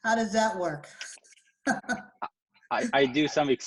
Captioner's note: laughing